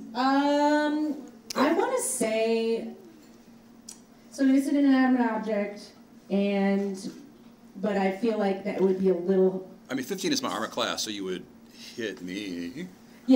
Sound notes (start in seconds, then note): none